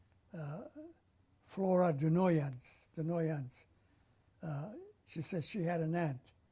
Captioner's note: armenian